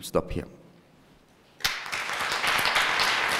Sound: applause

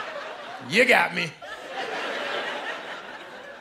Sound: laughter

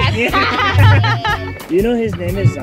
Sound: laughs

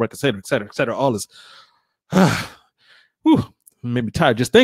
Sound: sighs

